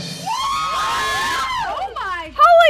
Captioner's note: women exclaiming